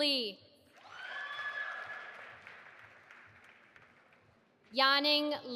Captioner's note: audience applauding